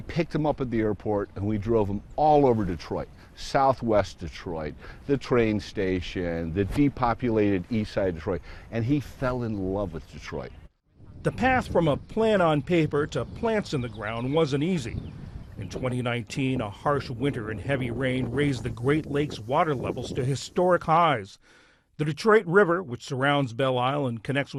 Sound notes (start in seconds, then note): 11.6 voice-over